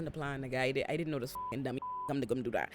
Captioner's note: beep